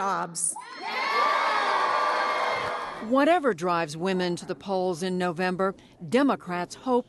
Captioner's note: cheering and applause